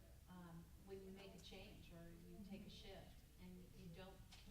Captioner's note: murmuring